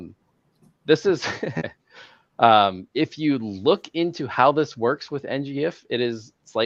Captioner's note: laughs